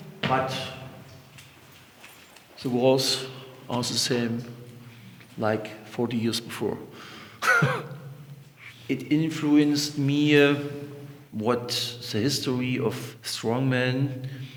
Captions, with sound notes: But the walls are the same, like 40 years before. (laughs) It influenced me, what the history of strongman,